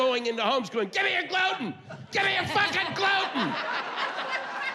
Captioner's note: yelling